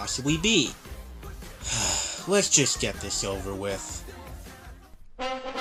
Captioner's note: sigh